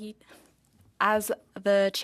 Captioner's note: speaking French